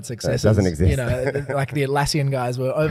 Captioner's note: laughs